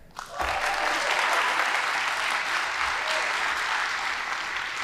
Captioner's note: audience applauding